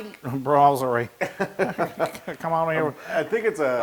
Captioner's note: laugh